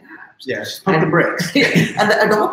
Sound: chuckling

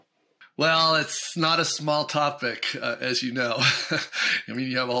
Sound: chuckles

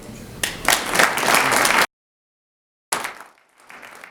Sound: audience applauds

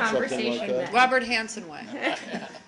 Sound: laughter

